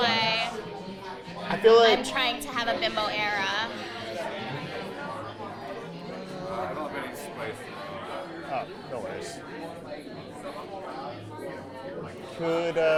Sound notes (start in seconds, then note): 4.8 patrons murmuring